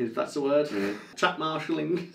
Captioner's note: laughs